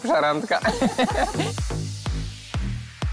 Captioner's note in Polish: śmiech